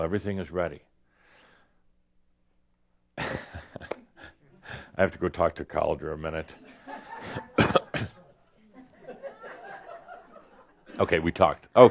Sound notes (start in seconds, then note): 3.2 pauses, then chuckles; 8.6 laughter as he goes behind the chair and pretends to discuss